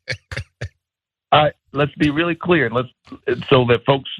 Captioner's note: laugh